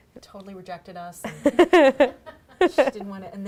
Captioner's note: laughing